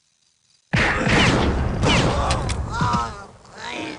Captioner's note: gun firing